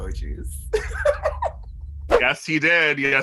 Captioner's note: laughter